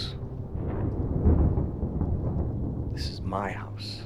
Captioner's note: thunder rumbling